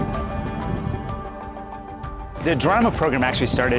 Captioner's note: cranking